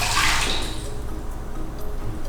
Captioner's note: emptying